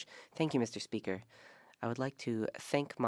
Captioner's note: speaking French